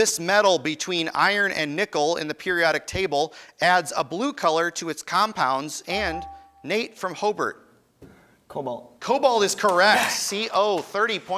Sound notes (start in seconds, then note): 5.9 ding